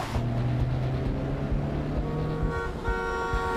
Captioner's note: horn blaring